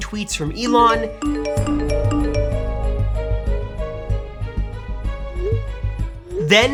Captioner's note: phone beeps; gentle music